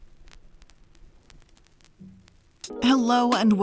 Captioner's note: static cracking